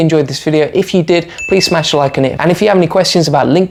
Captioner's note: bell rings